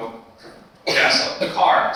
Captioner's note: attendee coughing